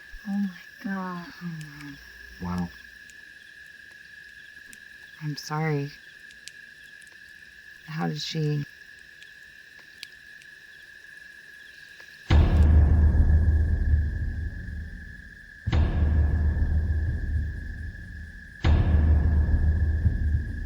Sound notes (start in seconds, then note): 9.4 fire Crackling Continues; 12.3 drum Beating